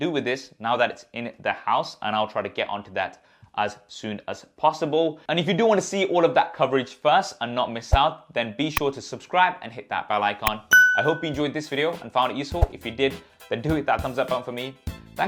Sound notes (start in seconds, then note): 10.5 upbeat music; 10.6 bell ringing